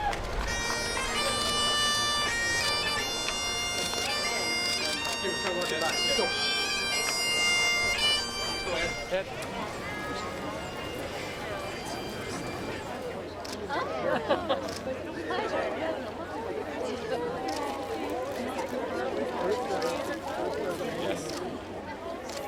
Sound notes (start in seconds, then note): 9.8 crowd sounds